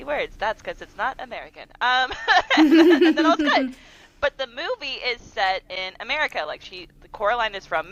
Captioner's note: laughter